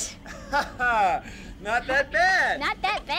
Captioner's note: chuckles